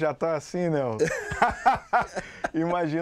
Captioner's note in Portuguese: Risadas